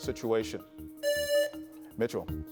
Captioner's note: presses buzzer